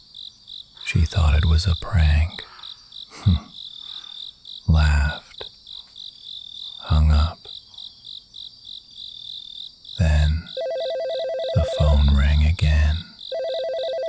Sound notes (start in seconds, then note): 5.6 chuckles